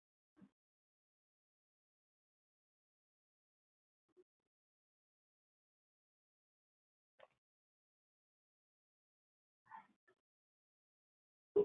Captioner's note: silence